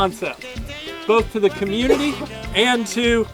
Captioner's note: coughs